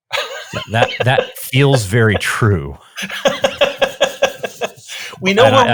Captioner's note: laughing